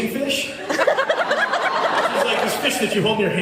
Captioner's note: laughs